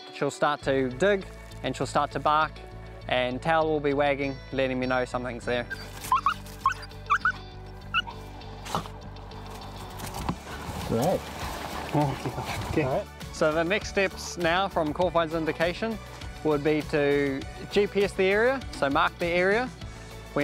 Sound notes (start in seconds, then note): 7.1 barking